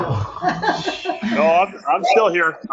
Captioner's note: imitates snoring